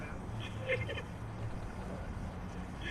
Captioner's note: laughter